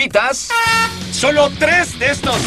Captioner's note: horn blares